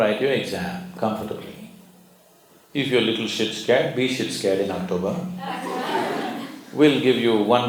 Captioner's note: laughter